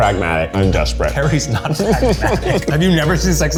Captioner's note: laugh